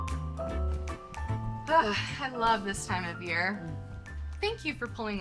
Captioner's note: sighs